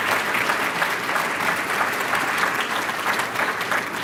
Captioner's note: applause